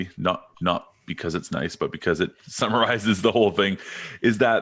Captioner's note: chuckles